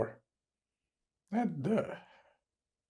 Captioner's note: crying